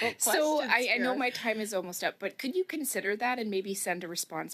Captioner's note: chuckling